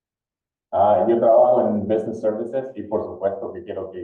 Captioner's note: speaking spanish